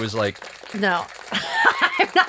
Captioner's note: applause